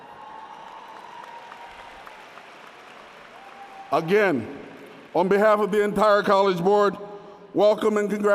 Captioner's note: applause